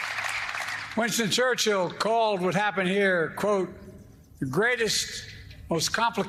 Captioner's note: applause